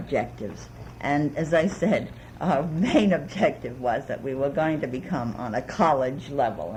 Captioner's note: laughs